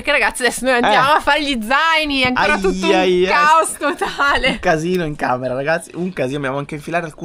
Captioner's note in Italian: risate